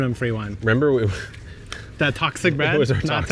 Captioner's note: laughing